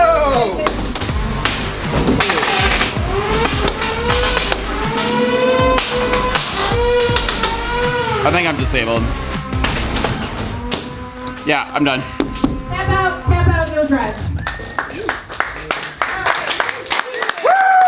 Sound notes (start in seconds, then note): 0.0 robots thudding; 1.8 robots continue thudding; 3.8 robots whirring; 11.0 robots thudding; 11.0 robots whirring; 12.7 glass tapping; 14.4 crowd applauding